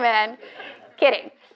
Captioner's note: audience laughs